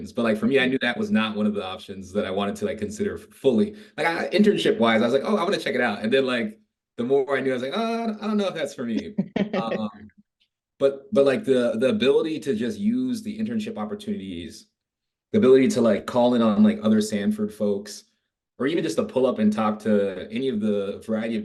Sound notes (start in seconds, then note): 9.0 laughing